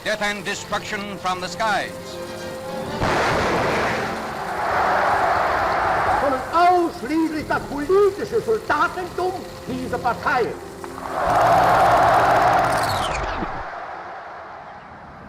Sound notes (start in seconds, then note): 3.0 explosion booming; 3.5 audience cheers and applauds; 6.4 Adolf speaking in foreign language; 10.8 audience cheers and applauds